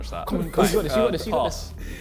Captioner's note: men laughing